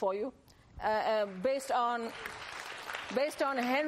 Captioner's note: applause